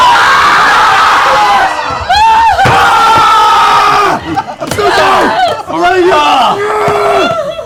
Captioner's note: cheering; laughs